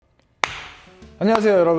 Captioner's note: clap